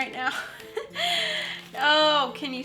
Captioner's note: wheeze